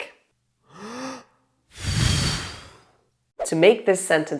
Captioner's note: blowing out candles